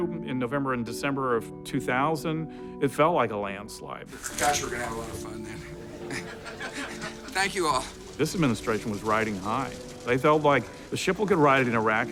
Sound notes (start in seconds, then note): 5.6 laughs